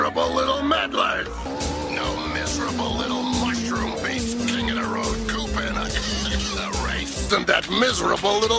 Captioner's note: coughs